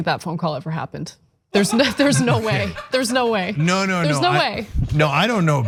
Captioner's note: laugh